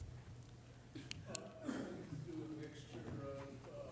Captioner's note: faintly speaking